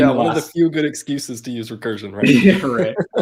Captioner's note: laughs